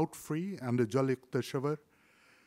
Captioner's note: foreign language